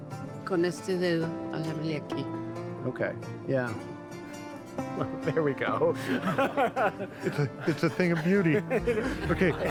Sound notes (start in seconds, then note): 1.4 speaking Spanish; 6.0 laughs